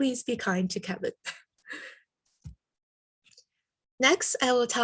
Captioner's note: giggles